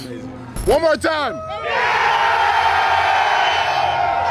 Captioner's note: crowd cheering